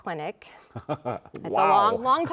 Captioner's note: chuckling